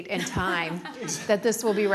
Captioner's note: laughing